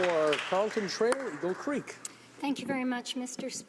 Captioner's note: applause